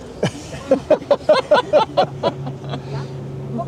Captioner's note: laugh